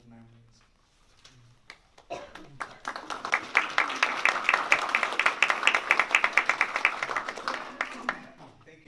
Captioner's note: applause